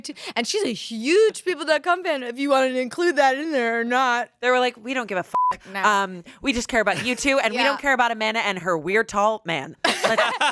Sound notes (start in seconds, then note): 5.3 beep; 9.9 everyone laughs